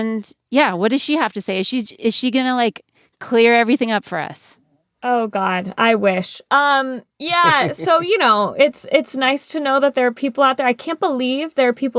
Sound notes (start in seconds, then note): 7.3 laughter